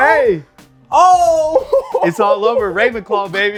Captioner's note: laughing